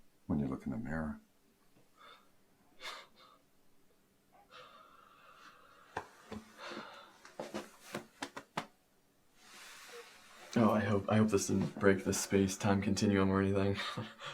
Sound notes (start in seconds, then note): 3.0 Charlie laughs